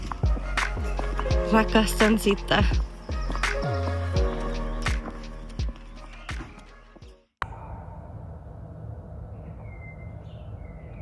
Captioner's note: hoots